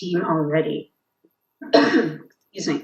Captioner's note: coughs